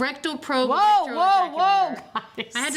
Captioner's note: laughs